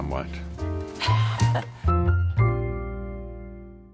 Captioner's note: Laura laughs